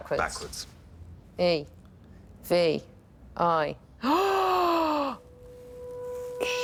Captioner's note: gasps